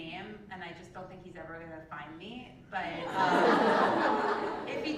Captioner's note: laugh